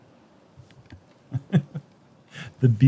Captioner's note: chuckles